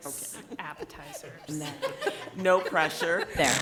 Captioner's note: people laughing